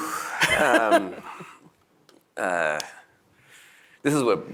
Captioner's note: laughs